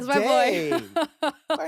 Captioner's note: laughing